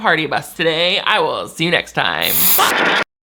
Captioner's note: static crackles